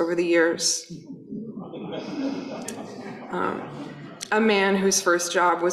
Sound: audience laughing

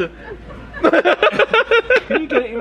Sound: laughs

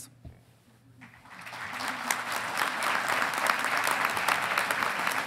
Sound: audience applauding

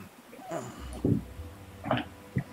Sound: Fig grunts

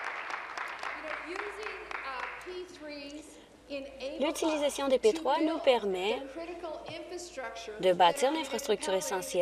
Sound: applause

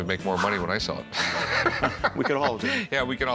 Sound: laughs

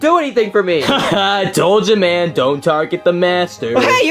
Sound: laughs

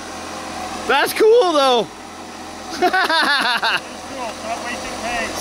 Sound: laughing

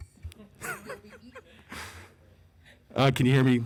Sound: laughing

